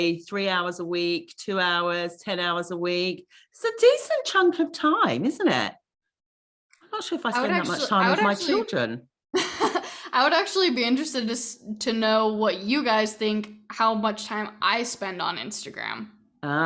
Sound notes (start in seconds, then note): 7.4 laughing